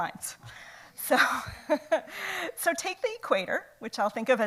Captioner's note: laughs